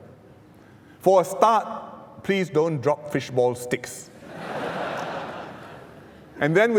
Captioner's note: laughter